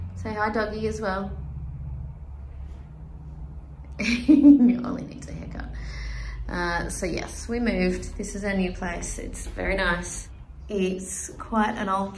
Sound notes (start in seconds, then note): 4.0 chuckles